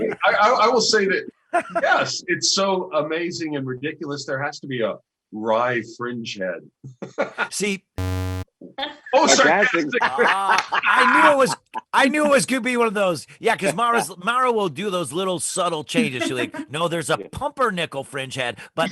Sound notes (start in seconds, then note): 8.0 error sound